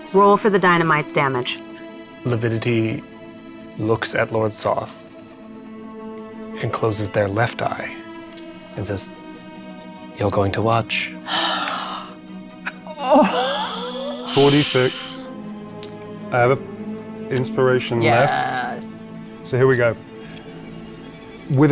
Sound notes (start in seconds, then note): 14.4 chuckling; 14.4 gasping